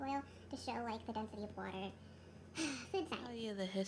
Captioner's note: sigh